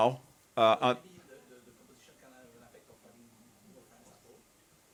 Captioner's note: attendee 4 faintly speaking